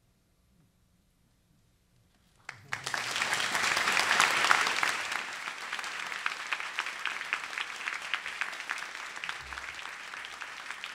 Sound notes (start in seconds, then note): 2.4 audience applauds